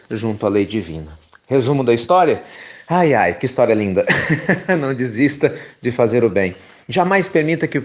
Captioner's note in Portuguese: risos